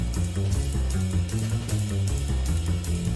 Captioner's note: none